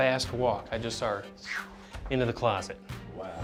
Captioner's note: whooshing